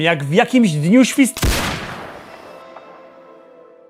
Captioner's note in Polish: wystrzał